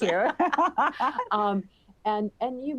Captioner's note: laughter